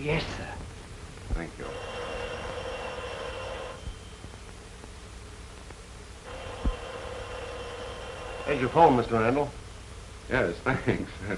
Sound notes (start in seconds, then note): 1.6 phone ringing